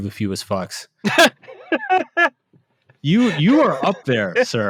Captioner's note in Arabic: يضحك